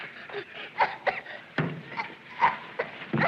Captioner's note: coughing